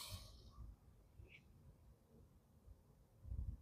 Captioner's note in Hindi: नाक से की जाने वाली आवाज़